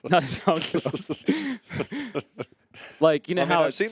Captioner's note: laughing